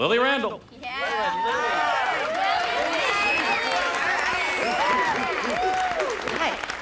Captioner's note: cheering